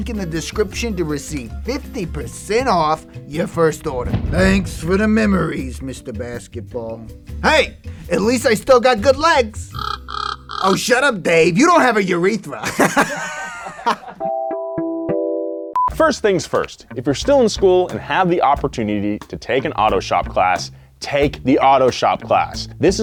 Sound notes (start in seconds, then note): 9.8 falcon cawing; 12.6 laughing; 15.8 video beeping